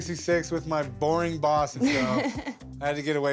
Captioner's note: laughs